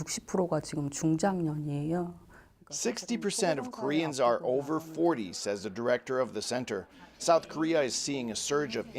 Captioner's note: speaking alternate language